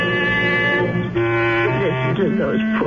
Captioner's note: buzzer